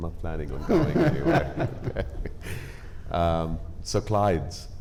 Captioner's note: panelists laughing